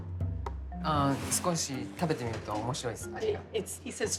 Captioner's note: speaking Japanese